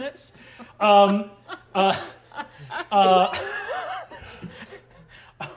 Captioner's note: laughing